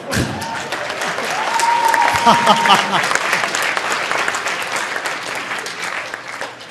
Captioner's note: audience cheering; audience applauding